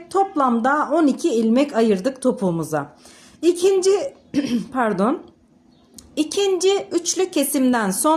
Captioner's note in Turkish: boğazını temizler